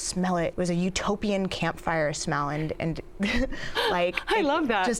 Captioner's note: laughs